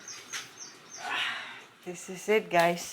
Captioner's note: exclaims